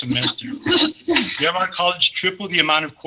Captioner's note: clears throat